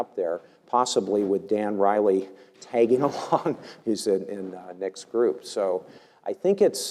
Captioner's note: laugh